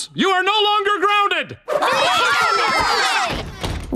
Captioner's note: cheering